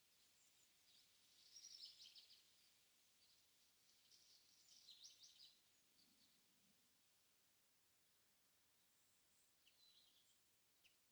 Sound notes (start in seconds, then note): none